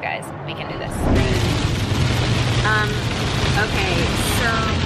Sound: rain shattering

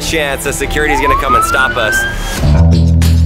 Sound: siren wailing; rock music

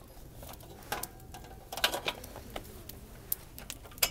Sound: gas ran out

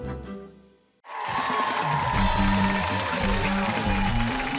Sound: cheering

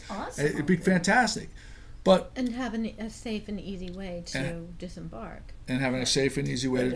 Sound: voiceover

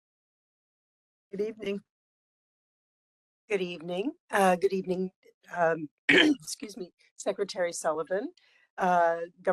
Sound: cough

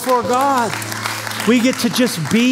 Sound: applause

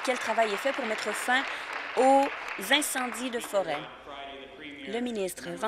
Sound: applause

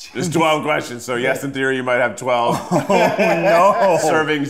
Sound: laughs

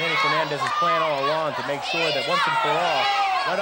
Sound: wrestlers groaning

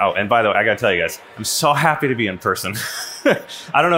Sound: laughs

